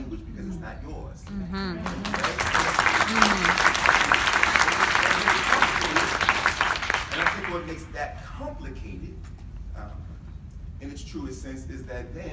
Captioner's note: pause for clapping